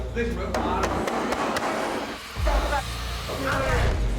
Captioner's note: banging